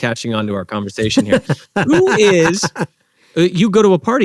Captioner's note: laughs